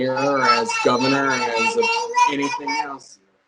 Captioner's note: baby babbling